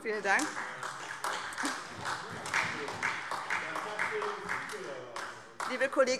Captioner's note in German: Beifall SPD